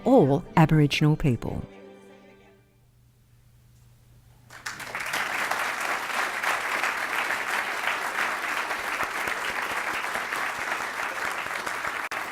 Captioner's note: applause